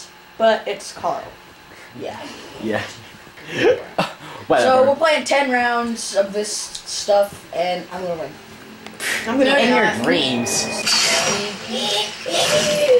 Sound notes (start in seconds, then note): 3.4 chuckles; 3.4 snickering